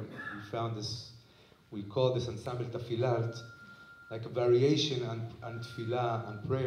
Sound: hebrew

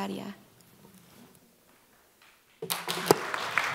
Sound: applause

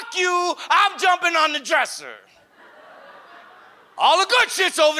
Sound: audience laughs

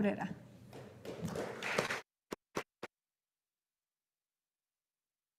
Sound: audience applauding

